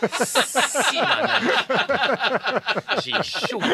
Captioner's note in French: rires